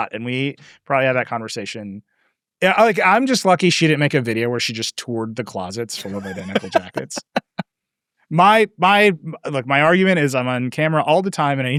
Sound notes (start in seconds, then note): 5.9 laughing